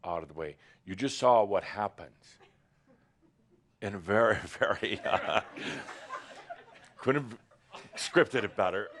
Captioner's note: laughter